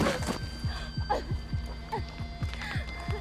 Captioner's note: gasping